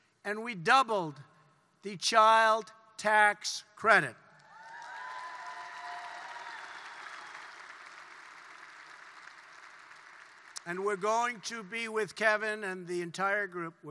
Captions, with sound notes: And we doubled the child tax credit. (Applause.) And we're going to be -- with Kevin and the entire group,